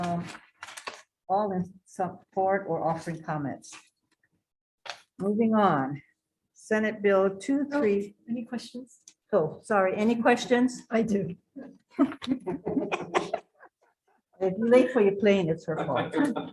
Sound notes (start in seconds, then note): 12.0 participants laughs loudly